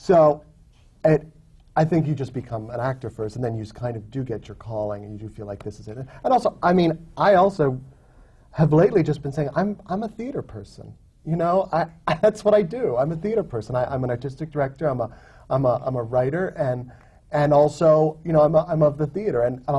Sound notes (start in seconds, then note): none